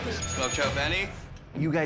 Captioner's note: bell dinging